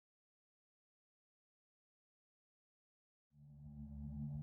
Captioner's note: silence